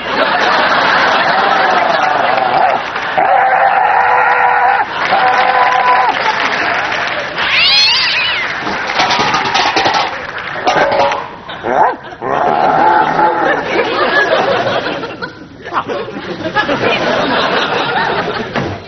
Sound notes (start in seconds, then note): 6.6 all: claps; 8.4 pot sound